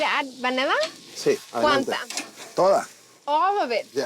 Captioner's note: speaking Spanish